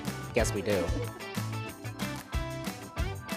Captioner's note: laughing; upbeat music